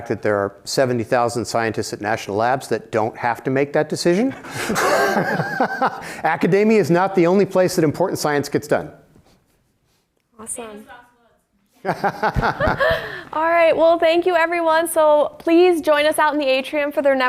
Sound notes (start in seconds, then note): 4.3 laughter